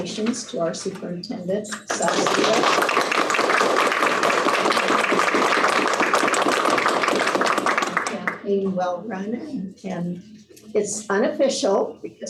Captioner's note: applause